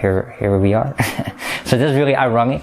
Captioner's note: laugh